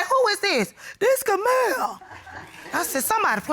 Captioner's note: imitates Kamal